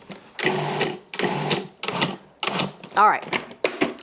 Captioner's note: food processor whirring